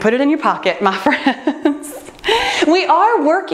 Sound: laughs

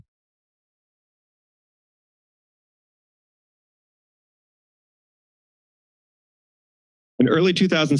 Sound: silence

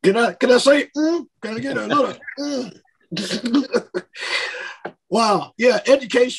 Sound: laughs

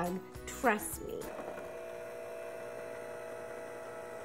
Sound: electric mixer noise in background

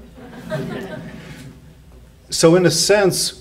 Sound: audience laughs

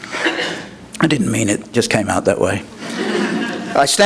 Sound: laughter

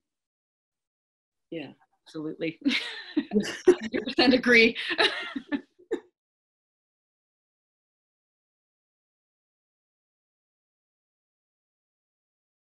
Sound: laughs

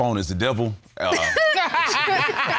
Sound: all laugh

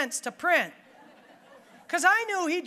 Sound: audience laughing

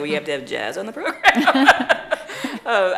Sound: laughing

